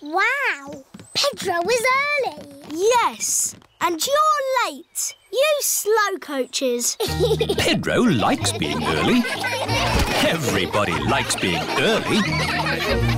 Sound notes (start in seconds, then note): 7.0 giggles; 10.0 laughter